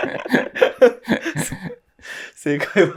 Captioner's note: laughing